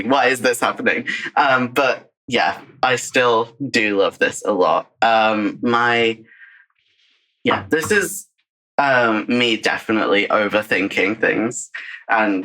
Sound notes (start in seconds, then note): 0.7 laughs